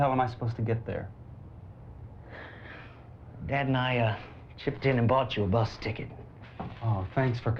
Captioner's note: sighs